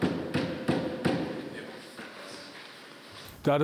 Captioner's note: quiet discussions